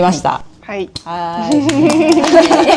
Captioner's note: laughs